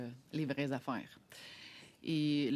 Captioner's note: speaking French